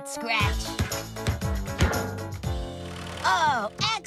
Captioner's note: ball Thumping